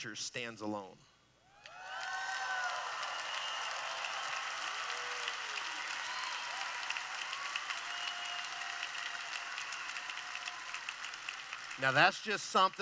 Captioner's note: cheering